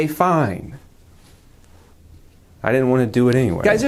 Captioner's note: music cuts